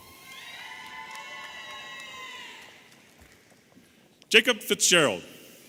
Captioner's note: audience applauding and cheering